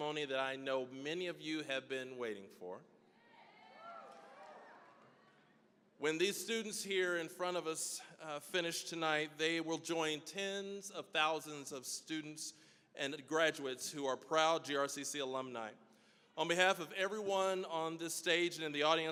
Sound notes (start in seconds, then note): 3.1 graduates cheering